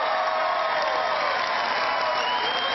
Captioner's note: cheering